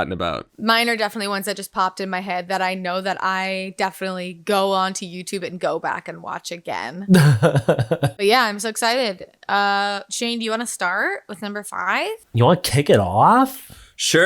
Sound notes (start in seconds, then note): 7.1 laughing